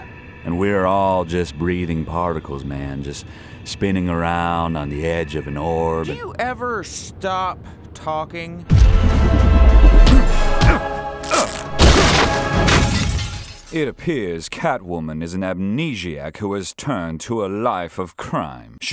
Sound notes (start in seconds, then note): 11.2 grunting